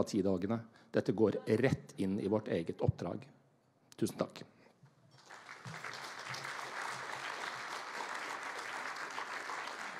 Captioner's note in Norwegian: Applaus